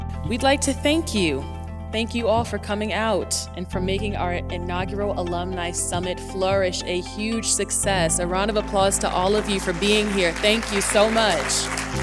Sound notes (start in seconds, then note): 9.2 applause